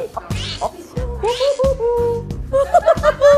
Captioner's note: whoo, hoo, hoo